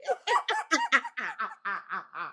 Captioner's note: laughing